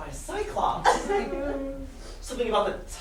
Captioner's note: sailors weep